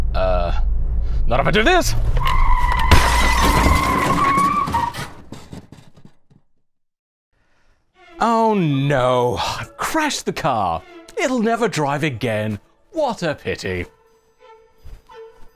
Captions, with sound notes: err not if I do this! [crash] oh no I crashed the car it'll never drive again what a pitty